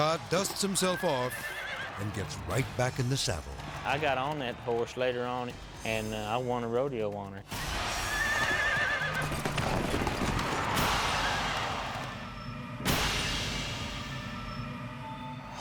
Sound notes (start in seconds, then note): 0.0 horse thumps; 0.0 people shouting; 8.0 horse neighs; 9.0 horse thumps; 9.4 people shouting; 10.6 intense music